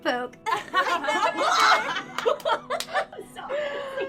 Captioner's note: laughing